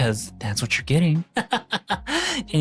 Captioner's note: laughs